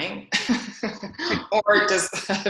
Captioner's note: laughs